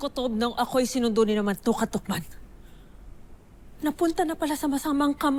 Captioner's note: none